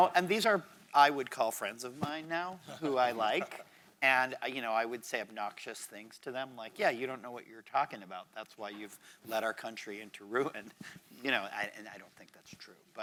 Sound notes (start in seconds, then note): 2.7 laughs